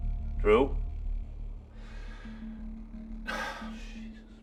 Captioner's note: sighs